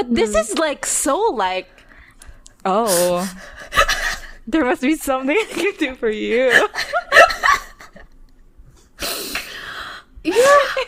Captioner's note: laughing; both laughing